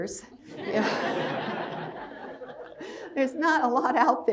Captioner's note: crowd laughs